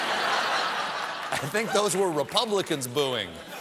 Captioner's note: laughter